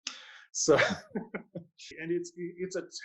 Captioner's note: laughs